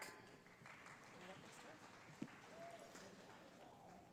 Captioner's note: audience applauding